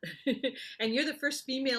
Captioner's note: laughs